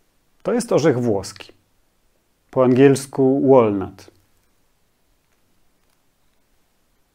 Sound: in Polish

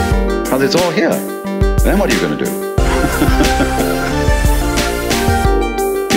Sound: laughter

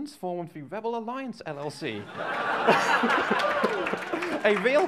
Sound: laughter, applause

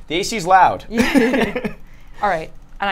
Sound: both laugh

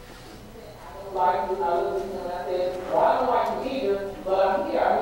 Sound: video playing off-microphone

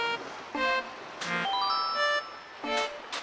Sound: curiosity sound; footsteps

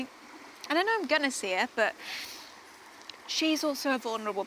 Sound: sniffles

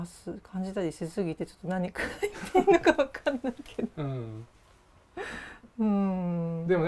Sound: laugh

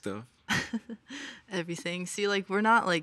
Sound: chuckles

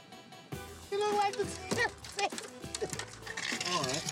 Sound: laughs; laughing

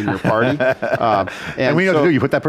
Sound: laughing

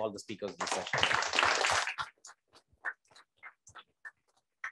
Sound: applause

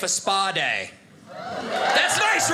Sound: audience cheers

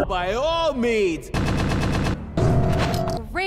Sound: banging golden hammers

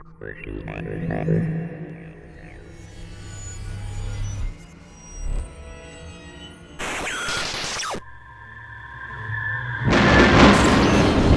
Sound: sound Effects

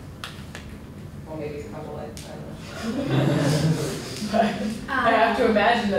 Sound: laughter

